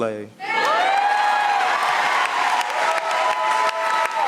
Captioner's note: audience cheering